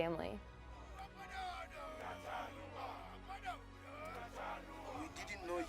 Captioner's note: chanting